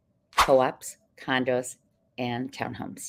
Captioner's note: text whooshing